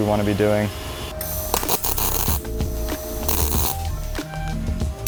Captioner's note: tool crackling